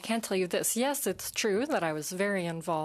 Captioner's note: speaking in French